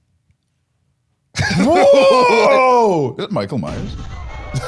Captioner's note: laughing